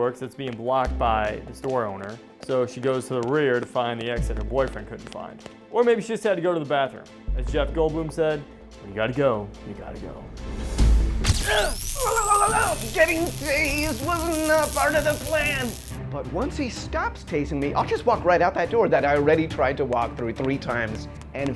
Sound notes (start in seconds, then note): 11.4 screaming in shock